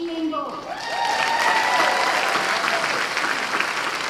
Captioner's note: applause